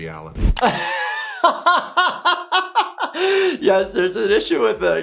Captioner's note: laughing